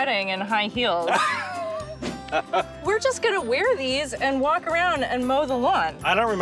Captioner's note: laughing